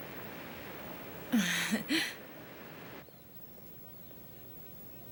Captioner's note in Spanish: Trina dá uma risadinha